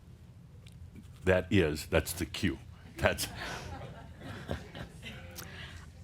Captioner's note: a few chuckles